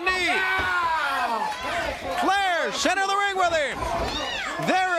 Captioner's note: crowd cheering